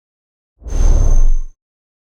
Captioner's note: whoosh